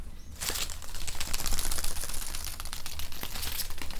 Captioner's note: branches rustling